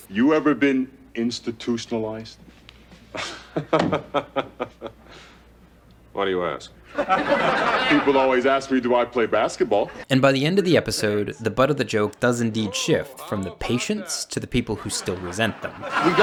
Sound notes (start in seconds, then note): 3.1 laughing; 6.9 audience laughing